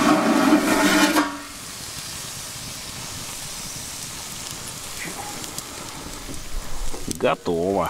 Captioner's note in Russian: звон металла